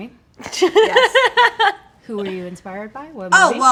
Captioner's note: laughing